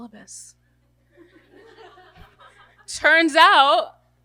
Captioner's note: audience laughter